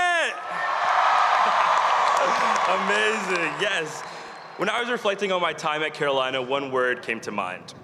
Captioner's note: cheers and applause